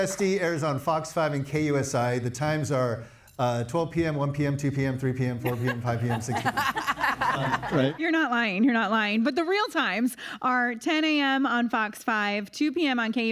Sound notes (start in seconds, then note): 7.5 everyone laughing